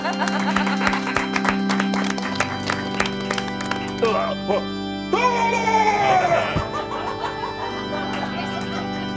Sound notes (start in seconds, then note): 0.0 all applauding; 2.3 sad organ music; 4.2 exclaiming